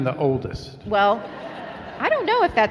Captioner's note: laughing